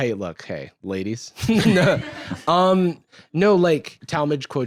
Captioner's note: laughs